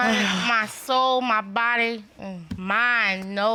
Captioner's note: sighs